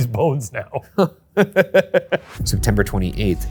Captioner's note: laughs